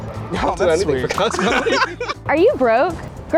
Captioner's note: laughing